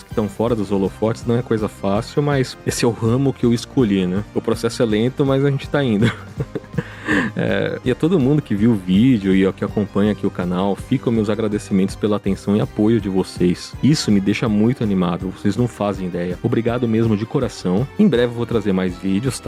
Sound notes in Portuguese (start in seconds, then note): 6.0 risadas